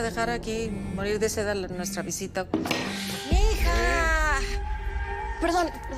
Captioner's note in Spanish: Vibra el celular